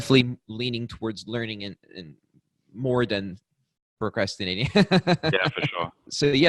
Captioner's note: laughs